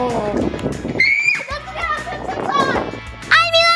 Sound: screams

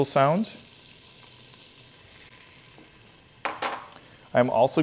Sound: pan sizzling

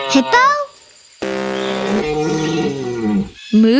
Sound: buzzer rings

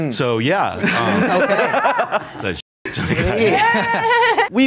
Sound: laughs

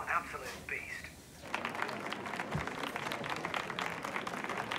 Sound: group applauding

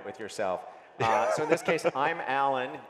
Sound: laughs

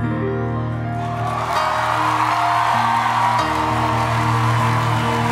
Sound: audience cheering

